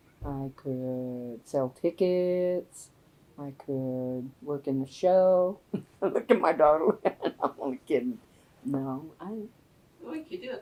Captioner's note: laughs